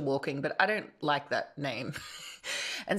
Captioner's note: chuckles